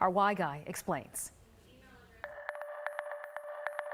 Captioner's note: none